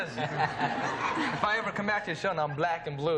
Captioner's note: laughter